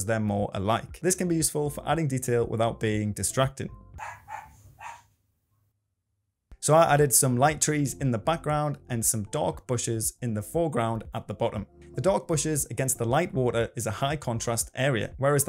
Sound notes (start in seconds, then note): 4.0 dog barking